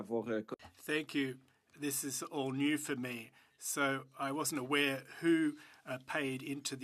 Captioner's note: speaking French